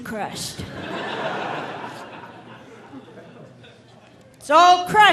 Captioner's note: audience laughing